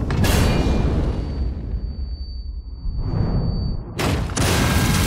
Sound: bomb landing; bomb exploding; high pitch frequency resonating; guns firing

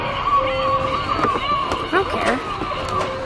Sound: electronic screeching

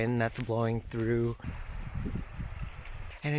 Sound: sound of wind blowing and leaves ruffling

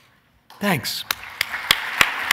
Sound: applause

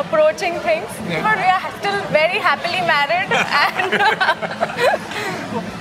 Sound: laughter

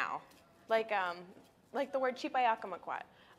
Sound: speaking in a foreign language

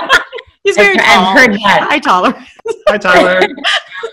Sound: laughing

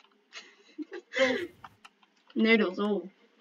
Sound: laughing

